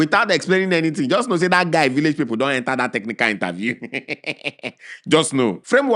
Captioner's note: chuckles; chuckles